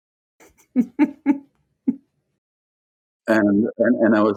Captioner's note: laughing